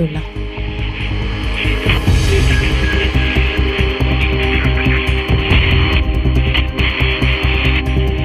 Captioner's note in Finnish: Radiopuhelimen rätinää ja tunnusmusiikkia